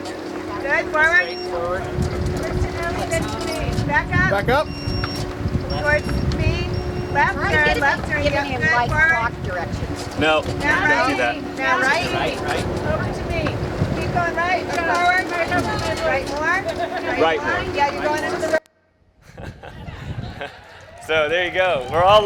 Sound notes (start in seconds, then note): 4.2 voiceover; 11.8 voiceover; 19.2 laughs